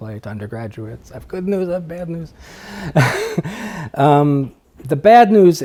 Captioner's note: laughs